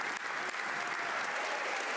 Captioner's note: applause; cheers